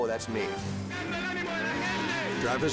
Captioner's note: announcer shouts in Spanish